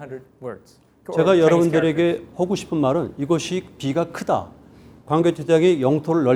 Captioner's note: speaking in Korean